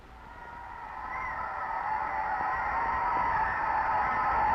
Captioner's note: crowd cheering